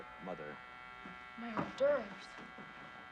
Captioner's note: door buzzer